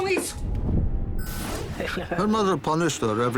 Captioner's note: speaking portuguese